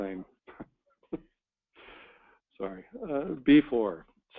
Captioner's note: laughs